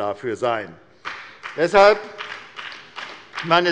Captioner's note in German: Beifall bei der SPD